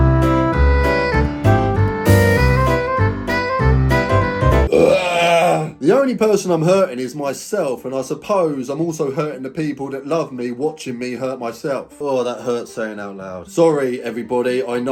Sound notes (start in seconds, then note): 4.6 belching